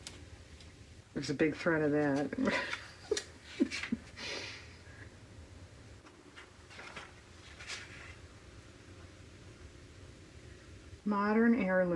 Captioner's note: laughs